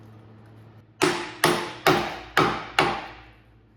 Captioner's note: hammering